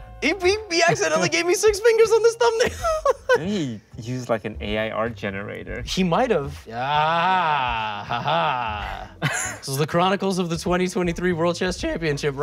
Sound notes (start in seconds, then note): 2.5 laughs